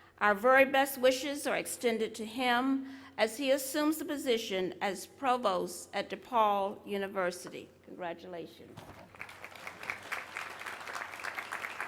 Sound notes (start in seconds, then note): 8.8 applause